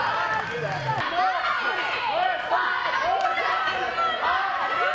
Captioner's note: cheerleaders chanting